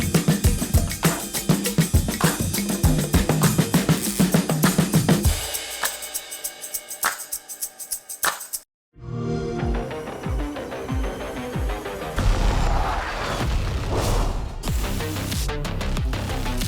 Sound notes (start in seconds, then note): 8.7 xbox sound; 9.0 intense music